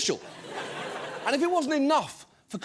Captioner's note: audience laughing